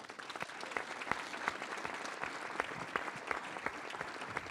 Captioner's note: audience applauding